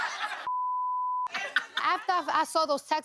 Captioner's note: audience laughing